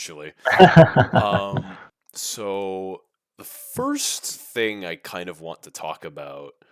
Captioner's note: laughs